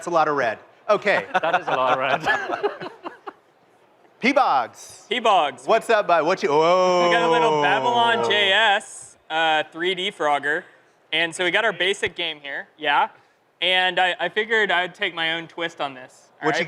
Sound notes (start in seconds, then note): 2.7 laughter